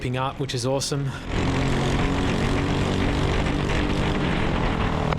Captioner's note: engine revving